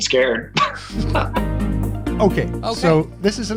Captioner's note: laughs